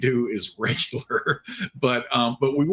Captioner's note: giggling